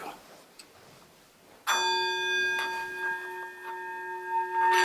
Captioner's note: bowl dinging